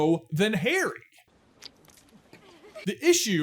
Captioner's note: splurts